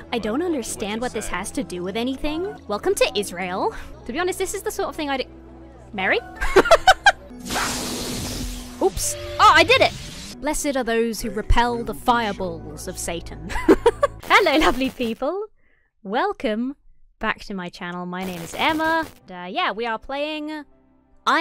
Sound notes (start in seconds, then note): 6.4 laughs; 7.6 magic whooshes; 13.5 laughs